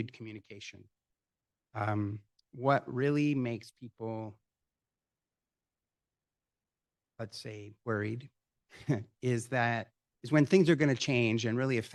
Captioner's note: chuckle